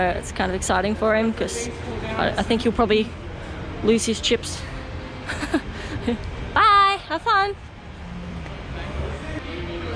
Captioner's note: excited